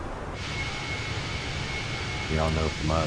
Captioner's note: radio chatter